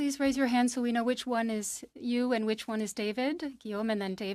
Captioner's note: speaking French